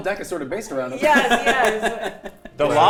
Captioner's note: laughing